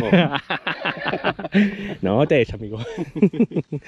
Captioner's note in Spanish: Risas